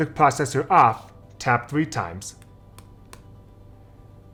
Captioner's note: finger taps